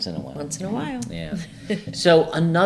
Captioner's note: laughs